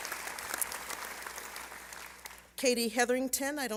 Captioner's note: applause